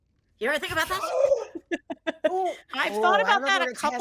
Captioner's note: gasps